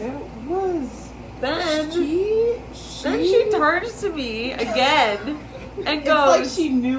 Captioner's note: laughs